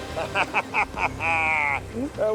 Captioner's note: laughing